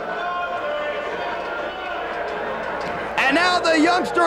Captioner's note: spectators cheering